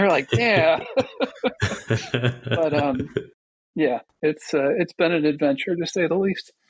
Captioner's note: laughing